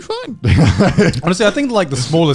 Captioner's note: laughs